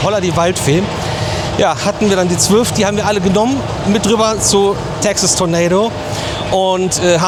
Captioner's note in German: none